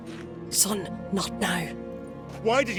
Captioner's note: hushed